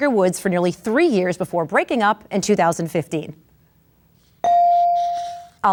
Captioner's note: bell dings